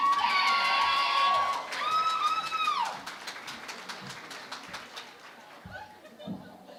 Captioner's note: cheering and Applause